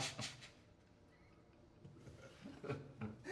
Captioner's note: laughs